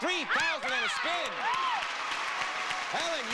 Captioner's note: audience applauding